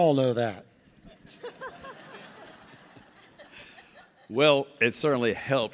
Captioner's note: audience laughs